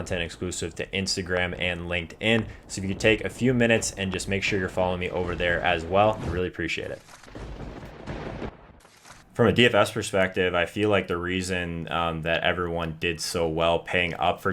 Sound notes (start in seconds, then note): 7.2 thunder rumbles